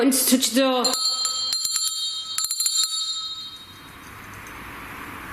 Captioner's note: bell rings